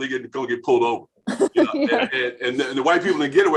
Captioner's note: laughing